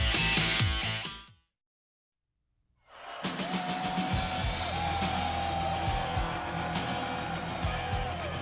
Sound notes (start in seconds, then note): 2.9 spectators cheering; 3.5 upbeat music